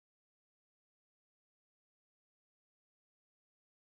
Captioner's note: none